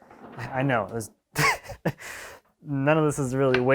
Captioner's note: man laughs